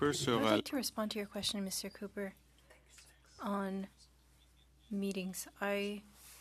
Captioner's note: speaking French